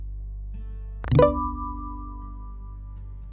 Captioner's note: text sound